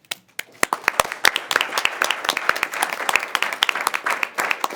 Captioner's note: attendees applauding